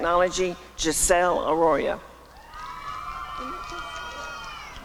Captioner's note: applause and cheering